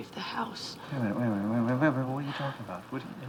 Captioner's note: stuttering